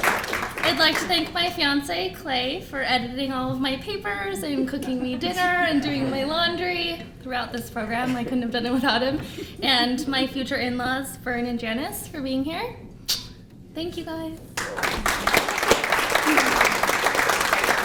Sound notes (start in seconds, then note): 0.0 applause; 14.5 applause